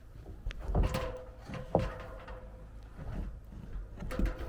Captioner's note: ladder clanking